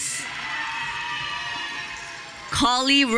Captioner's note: audience cheering